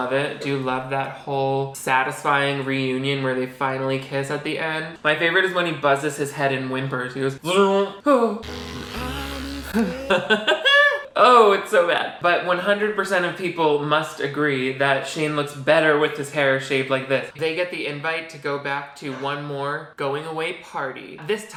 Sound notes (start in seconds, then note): 7.9 imitates hair clipper, whimpers; 9.7 laughs